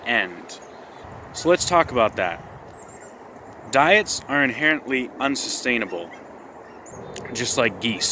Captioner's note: geese noises